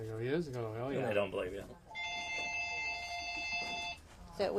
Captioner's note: phone rings